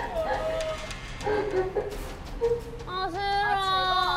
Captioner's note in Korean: 흐느끼는 누군가의 목소리...?